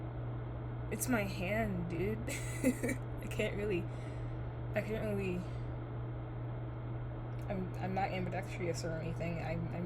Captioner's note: laughs